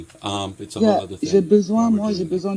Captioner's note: speaks in French